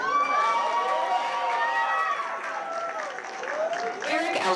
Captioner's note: cheers, applause